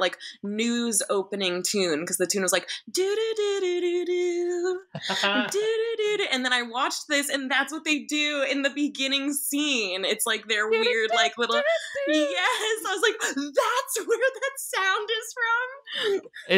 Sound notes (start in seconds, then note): 3.0 imitates tune; 11.4 imitates tune